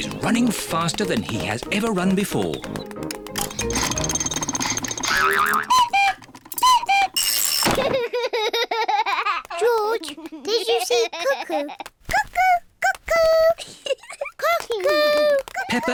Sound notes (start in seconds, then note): 5.7 panting; 5.8 clock cuckoos; 7.8 laughs; 13.5 giggles